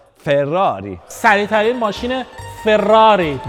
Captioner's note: saying it with the Italian accent